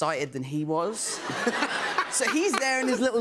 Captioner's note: laughter